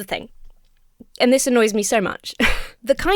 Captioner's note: chuckles